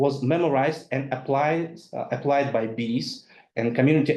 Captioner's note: speaks in foreign language